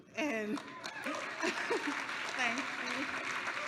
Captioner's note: applause